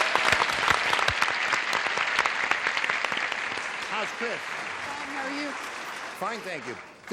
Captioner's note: applause